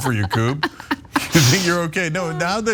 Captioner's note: laugh